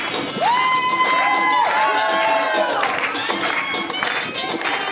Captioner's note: audience cheering